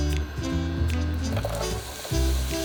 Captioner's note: onions sizzling